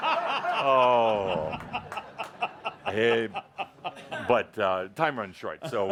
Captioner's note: laughter